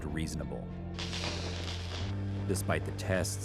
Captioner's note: popping and crackling